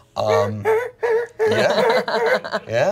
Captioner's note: hums scary music